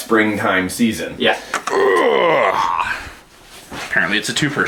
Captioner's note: grunting